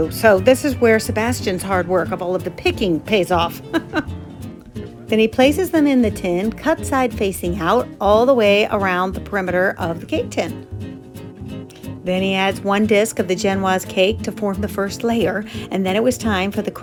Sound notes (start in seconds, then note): 3.5 chuckling